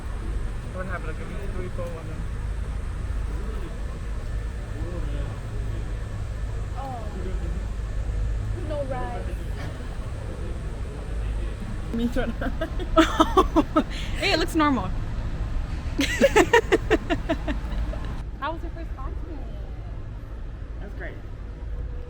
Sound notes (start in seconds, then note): 12.0 giggling; 16.0 laughing